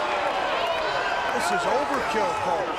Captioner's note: crowd boos